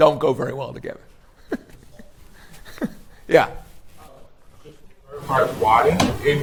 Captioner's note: laughs